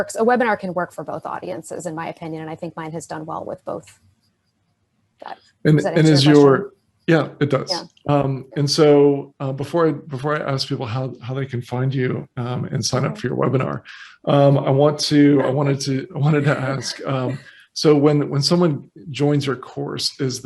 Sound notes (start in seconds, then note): 14.9 laughing